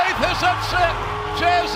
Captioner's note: bell ringing